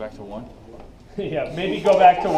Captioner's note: chuckle